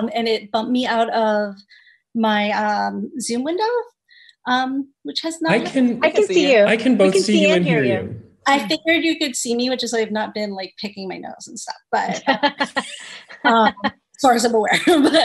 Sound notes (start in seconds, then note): 12.0 laughs